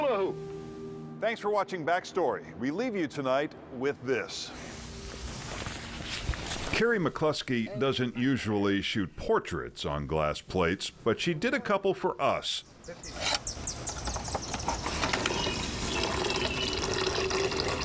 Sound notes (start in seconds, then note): 4.6 material rustling; 15.9 camera clanking